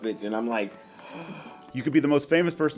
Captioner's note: gasps